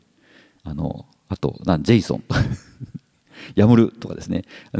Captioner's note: chuckles